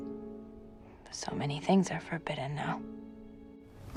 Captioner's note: voiceover